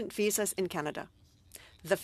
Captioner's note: speaking French